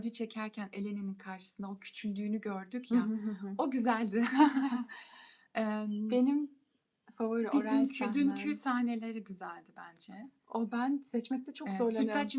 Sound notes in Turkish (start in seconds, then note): 3.2 boğazını temizler; 4.2 kahkaha